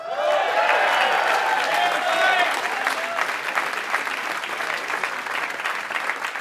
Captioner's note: applause